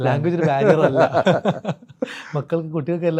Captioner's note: പൊട്ടിച്ചിരി